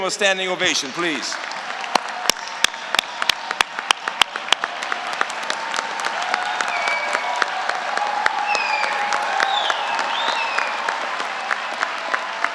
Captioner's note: applause